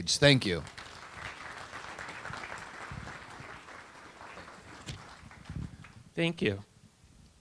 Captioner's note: audience applause